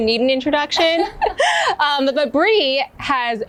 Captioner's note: laughing